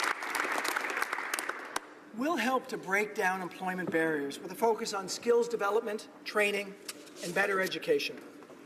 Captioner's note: applause